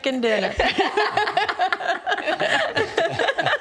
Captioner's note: laughing